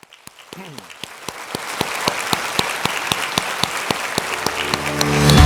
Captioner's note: audience applauds; upbeat music